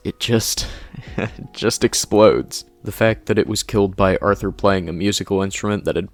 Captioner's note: chuckle